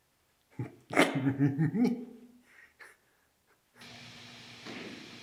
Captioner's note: Jacob laughing; static hissing